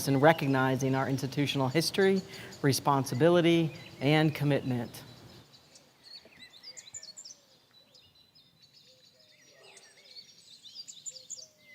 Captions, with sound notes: in recognizing our institutional history, responsibility, and commitment. (birds chirping)